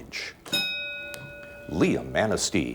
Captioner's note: ding